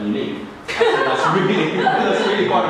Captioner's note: group laughing; laughing